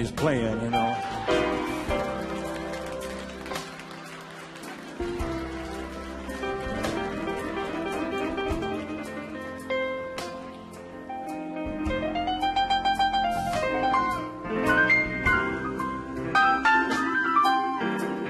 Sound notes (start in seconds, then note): 6.3 audience members applauding; 6.3 audience members laughing